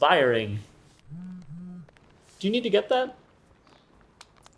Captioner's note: phone vibrating